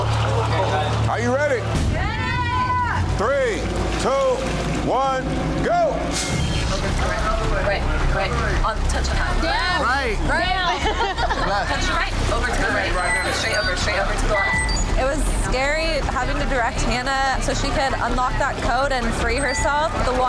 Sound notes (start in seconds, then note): 6.2 digital beeping; 6.3 water splashing; 10.6 laughing